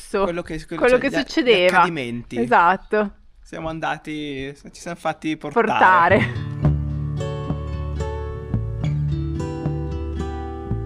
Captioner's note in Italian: risate